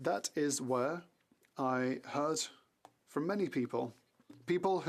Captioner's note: speaking French